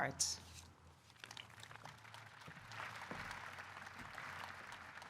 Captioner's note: audience applauding